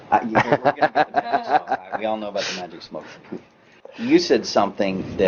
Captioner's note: small talks and laughs